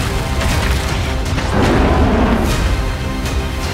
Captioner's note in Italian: ruggito